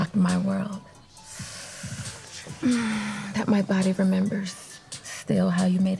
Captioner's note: sharply inhaling